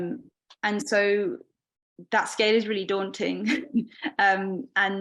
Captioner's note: laughing